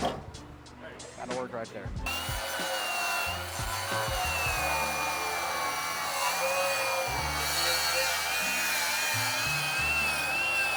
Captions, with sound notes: (upbeat music) - Gotta work right there. (drill whirring)